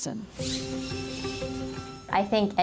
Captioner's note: tool buzzing